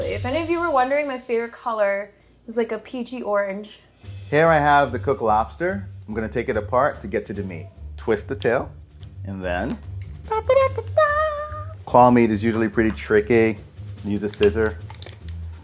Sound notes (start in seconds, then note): 10.2 impersonating bugle